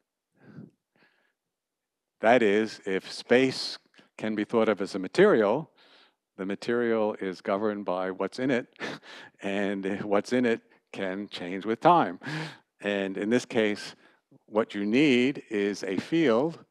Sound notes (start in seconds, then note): 8.8 laughter